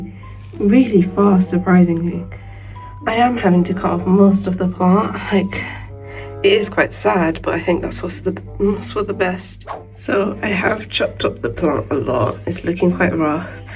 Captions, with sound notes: really fast surprisingly. I am having to cut off most of the plant. It is quite sad but I think that's also for the best. (whoosh) So I have chopped up the plant a lot. It's lookin quite rough